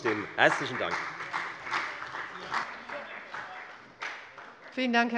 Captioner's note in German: Beifall bei der FDP und bei Abgeordneten der SPD